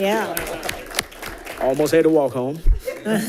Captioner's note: audience applauds